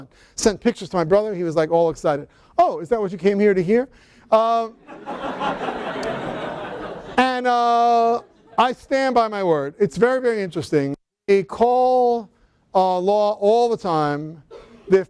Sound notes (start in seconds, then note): 4.8 laughter